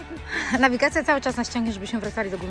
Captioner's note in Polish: śmiech